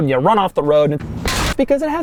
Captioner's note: crash